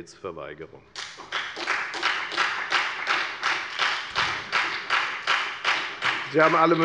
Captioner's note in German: Beifall bei der FDP und bei Abgeordneten der SPD